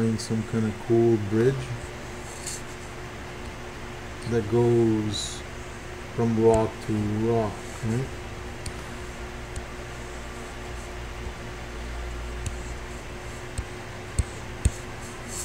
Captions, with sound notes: some kinda cool bridge that goes from rock to rock, right? (computer mouse tapping) (faint techno music)